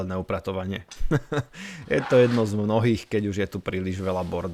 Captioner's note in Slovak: smiech